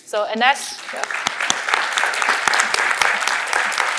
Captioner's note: applause